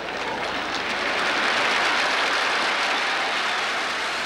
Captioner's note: applause